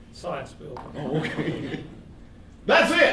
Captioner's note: laughing